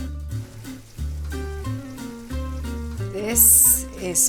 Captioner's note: salmon sizzling